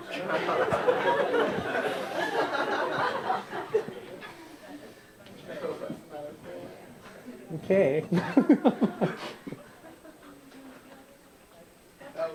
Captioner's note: laughter